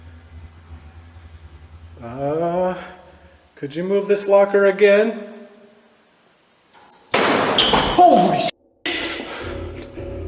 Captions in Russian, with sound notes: "Не могли бы вы еще раз пошевелить этот шкафчик?" (шкаф захлопнулся)